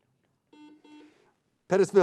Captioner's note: buzzing sound